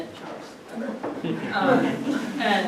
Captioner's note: audience laughs